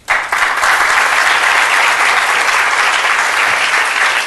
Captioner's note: audience applauding